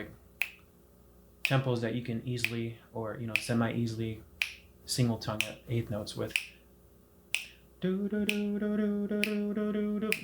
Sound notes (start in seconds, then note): 0.4 snapping a medium tempo on beats two and four; 6.3 continues snapping a medium tempo on beats two and four; 7.8 singing swing eighth notes over the continued snapping